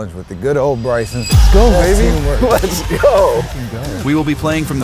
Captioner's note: laughs